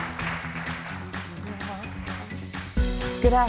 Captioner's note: applause